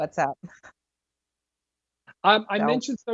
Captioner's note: laughing